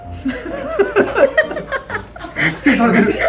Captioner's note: laughs